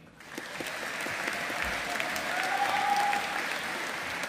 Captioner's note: audience applauding